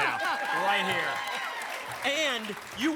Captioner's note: applause and cheering